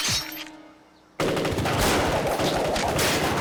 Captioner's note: rapid gun fire